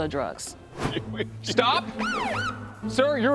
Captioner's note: police siren whoops